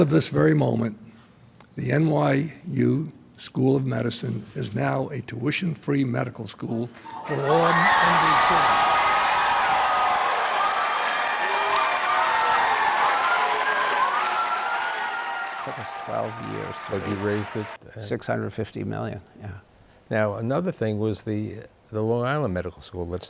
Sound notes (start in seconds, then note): 7.1 cheering and clapping